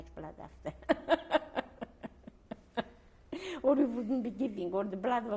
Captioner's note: laughs